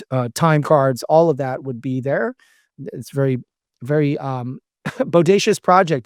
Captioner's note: laughs